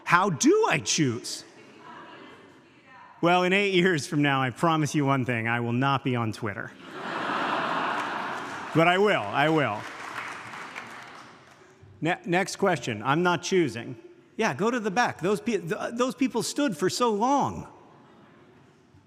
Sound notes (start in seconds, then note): 6.8 audience laughs